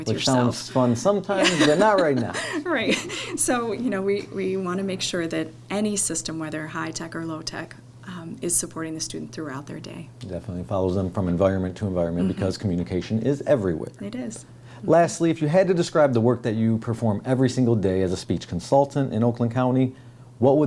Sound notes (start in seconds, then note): 1.4 laughing